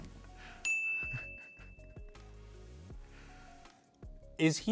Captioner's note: bell dings